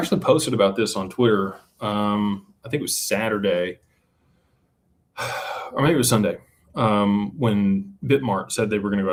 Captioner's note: sighs